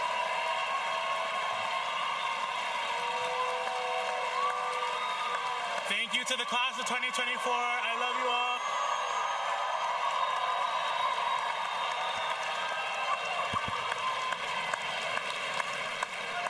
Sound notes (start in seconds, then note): 1.9 cheers